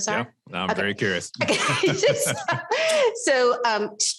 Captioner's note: both laughs